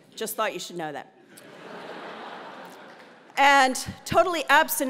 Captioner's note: laugh